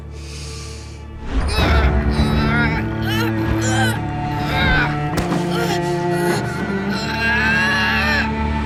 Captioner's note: groaning